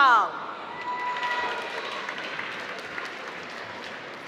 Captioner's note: applause